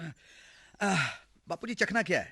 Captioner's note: sighs